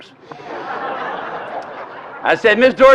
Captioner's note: laughter